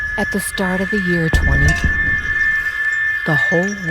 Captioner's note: object thudding